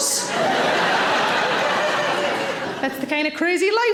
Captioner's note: audience laughing